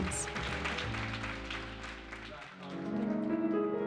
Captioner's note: audience applauds